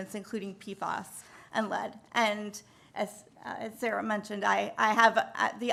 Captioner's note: none